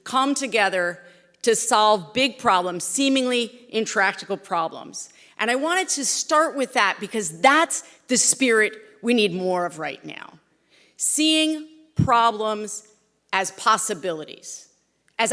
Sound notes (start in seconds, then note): none